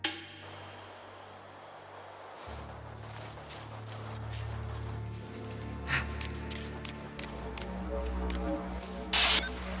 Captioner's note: sighs